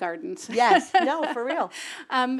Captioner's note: laugh